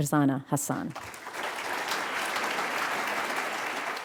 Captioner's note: applause